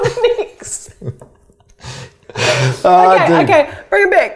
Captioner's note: both laughing